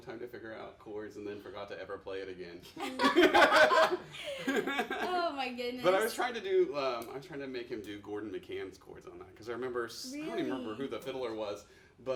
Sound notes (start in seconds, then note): 2.8 laughing